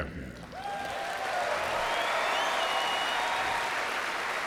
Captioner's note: crowd cheering